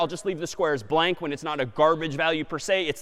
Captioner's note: none